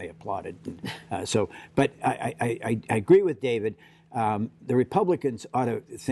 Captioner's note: laughter